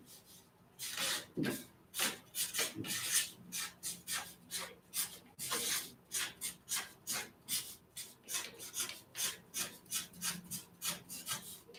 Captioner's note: marker scratches on paper